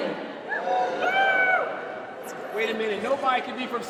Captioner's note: audience cheers